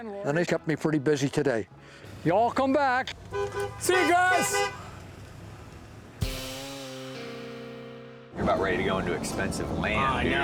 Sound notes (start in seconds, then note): 3.1 horn honking